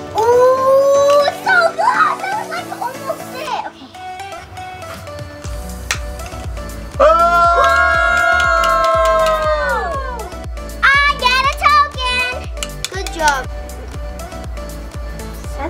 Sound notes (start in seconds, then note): 3.6 upbeat music; 7.0 cheering; 13.8 upbeat music